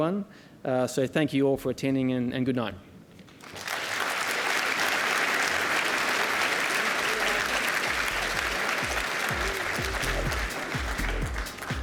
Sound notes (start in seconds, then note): 6.1 applause